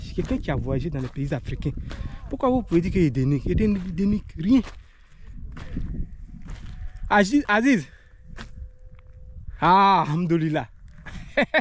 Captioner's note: laughs